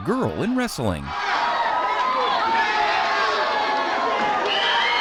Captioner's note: audience cheering